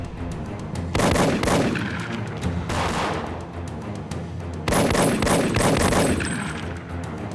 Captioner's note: gunshot echoes; dramatic music; gunshots blasting